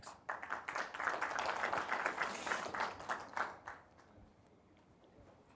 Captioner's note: applause